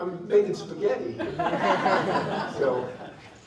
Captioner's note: laughter